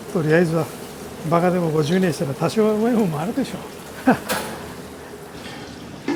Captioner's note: laughs